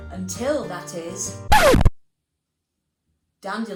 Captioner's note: record scratching